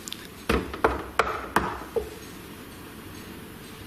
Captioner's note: knocking